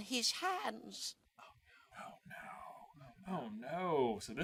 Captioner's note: whispers